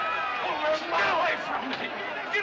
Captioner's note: crowd Shouting